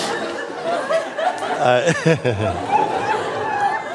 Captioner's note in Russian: смех